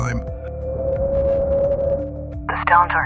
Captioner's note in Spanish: silbido del viento